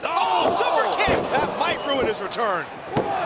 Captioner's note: crowd cheering